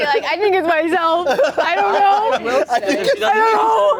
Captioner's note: laughing